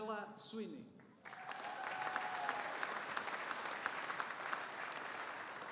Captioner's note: audience applauding